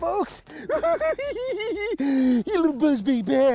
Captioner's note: cackles